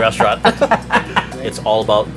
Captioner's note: laughter